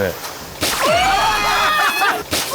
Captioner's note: delayed water slap